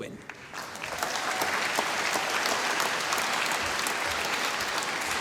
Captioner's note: applause